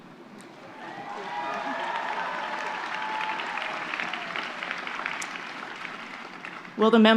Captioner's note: applause and cheers